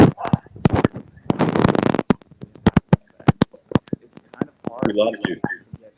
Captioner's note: technical glitch